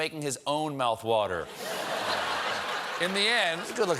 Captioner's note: laughter